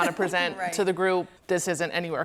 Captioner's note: chuckles